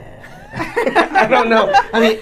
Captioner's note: laughing